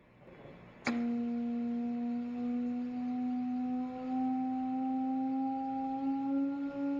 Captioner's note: rising buzzing tone